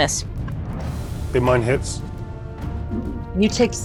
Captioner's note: die rattling